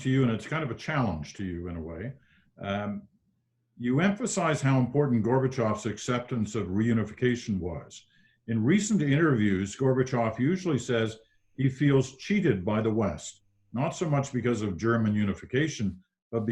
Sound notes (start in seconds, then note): none